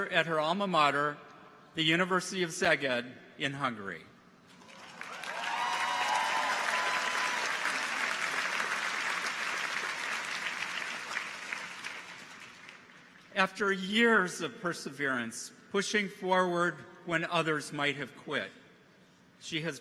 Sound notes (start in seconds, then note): 4.6 audience applauds; 4.7 people cheer